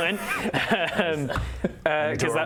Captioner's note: mature giggles